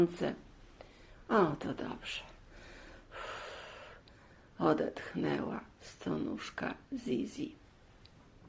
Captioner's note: sigh